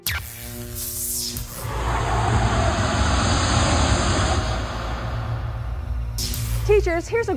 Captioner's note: sound Effects